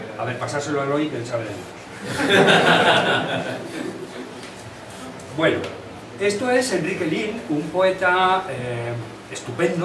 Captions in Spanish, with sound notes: ―A ver pasádselo a Eloi que él sabe de libros. [risas] Bueno, esto es Enrique Lihn, un poeta estupendo,